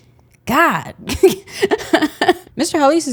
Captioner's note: laughs